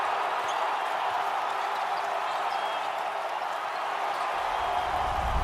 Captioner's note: crowds cheering